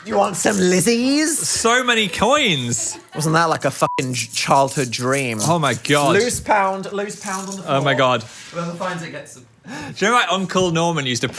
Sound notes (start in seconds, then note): 3.8 beep